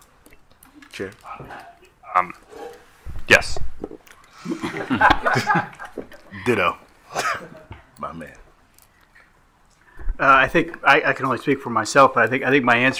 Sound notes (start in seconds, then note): 4.3 attendees laughing